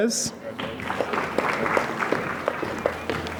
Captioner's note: applause